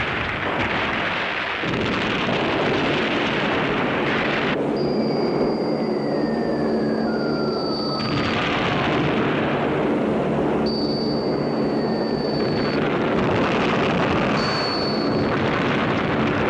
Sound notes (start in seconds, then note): 4.1 bombs whistling; 7.9 explosion booming; 10.5 bombs whistling; 13.2 explosions booming